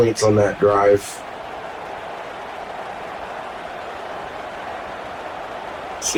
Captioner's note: crowd cheering